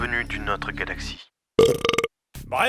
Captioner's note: burps